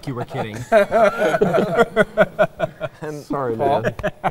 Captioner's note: all laughing